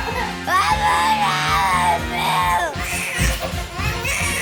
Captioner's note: child screams; children crying